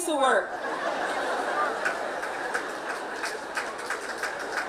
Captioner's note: laughing